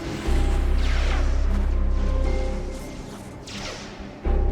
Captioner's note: lasers humming